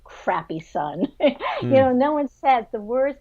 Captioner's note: laughs